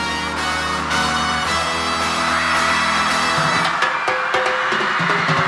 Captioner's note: audience cheering